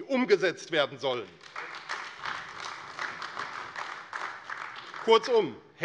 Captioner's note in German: Beifall AfD